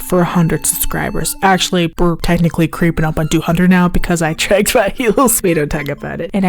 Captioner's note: awkwardly laughs